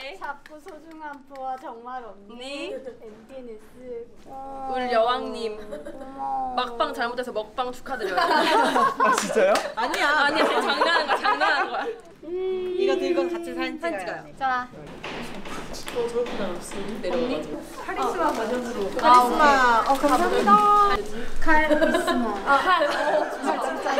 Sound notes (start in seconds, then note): 8.0 laughter with her cute joke